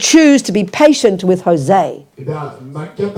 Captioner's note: speaking in French